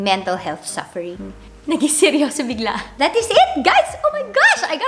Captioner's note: laughs